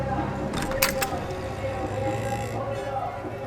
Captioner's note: opening wooden door